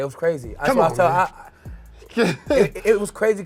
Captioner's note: laughs